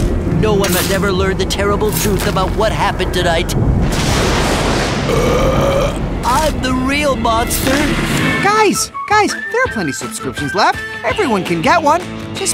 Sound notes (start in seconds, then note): 3.5 thunder clap; 4.8 belch